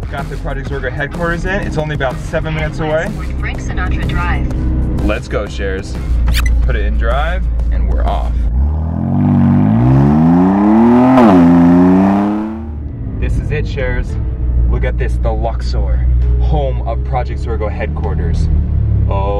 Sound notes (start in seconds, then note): 8.7 engine growling